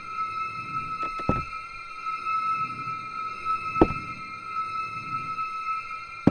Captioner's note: eerie music; muffled rhythmic thumps